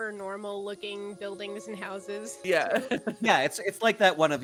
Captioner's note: laughs